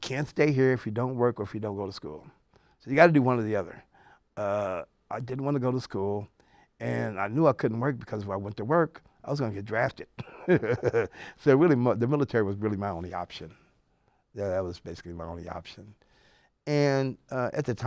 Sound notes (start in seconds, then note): 10.2 laughs